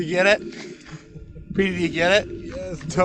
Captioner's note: laughing